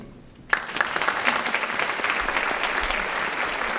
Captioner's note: applause